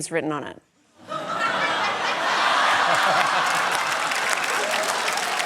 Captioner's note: laughter, applause